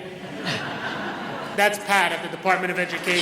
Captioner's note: audience laughs